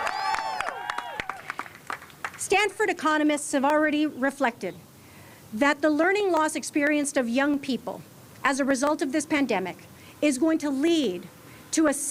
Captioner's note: cheers and applause